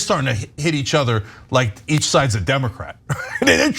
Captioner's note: laugh